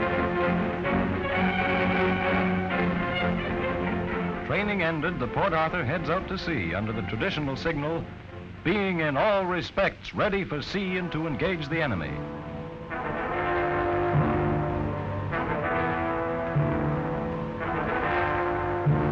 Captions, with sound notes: - [Voiceover] Training ended, the Port Arthur heads out to see under the traditional signal, being in all respects ready for sea and to engage the enemy. (ominous music)